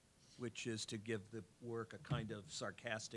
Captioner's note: none